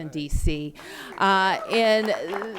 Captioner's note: applause